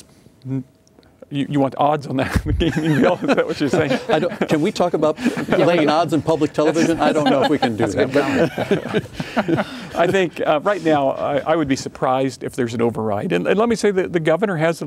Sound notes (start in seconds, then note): 2.6 laughing; 7.7 laughing